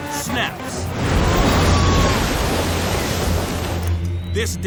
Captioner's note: woman screams